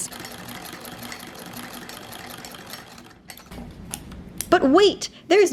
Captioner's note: clicking and rattling